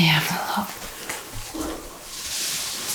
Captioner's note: knock